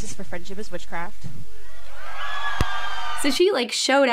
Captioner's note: crowd cheers